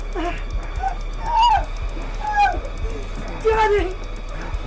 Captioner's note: Sue shrieks